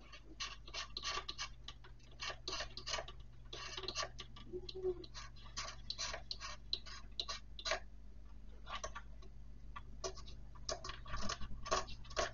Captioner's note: the sound of a file